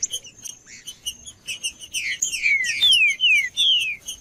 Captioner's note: trinca ferro cantando